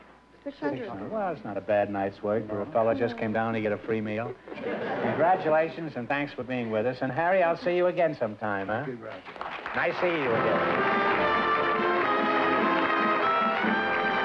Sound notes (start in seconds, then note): 4.5 laughter; 9.2 music and applause